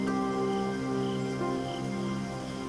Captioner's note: chirping of crickets